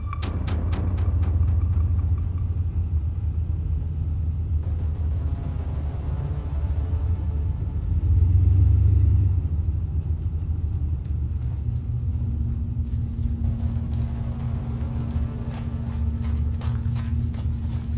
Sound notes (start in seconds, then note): 10.1 footsteps pattering